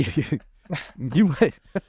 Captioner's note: both laughing